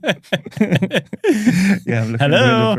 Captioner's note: laughing